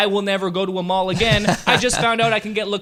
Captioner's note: laughs